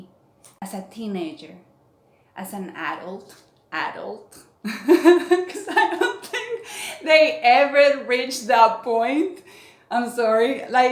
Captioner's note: laughs